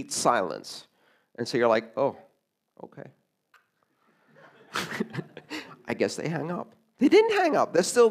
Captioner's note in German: Gelächter